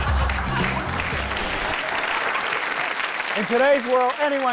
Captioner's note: audience laughs; audience applauds